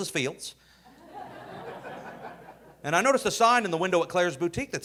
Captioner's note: audience laughing